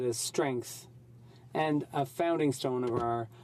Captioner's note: speaking French